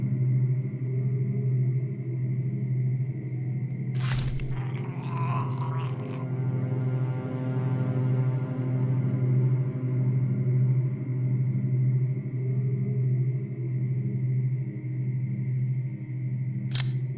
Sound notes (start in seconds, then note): 3.4 metallic whooshing; 4.0 gurgling